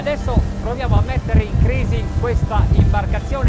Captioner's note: speaking foreign language